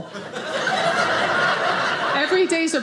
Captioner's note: audience laughing